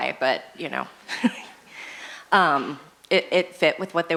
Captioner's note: laughs